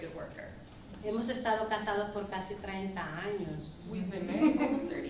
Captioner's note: speaking spanish